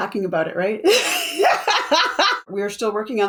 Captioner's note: laughs